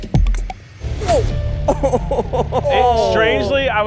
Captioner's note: laughs